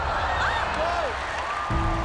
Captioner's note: cheering; applause and music; cheering